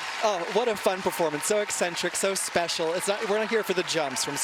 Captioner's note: cheers and applause